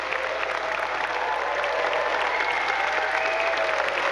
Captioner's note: audience cheering